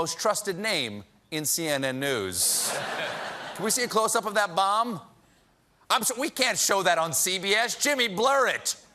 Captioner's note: laughter